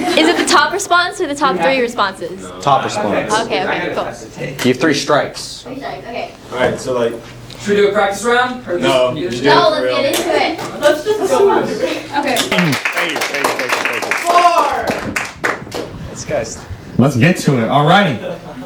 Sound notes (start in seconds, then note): 0.0 laughter; 4.2 chatter; 12.4 clapping & saying "Thank you"; 15.2 applause spatters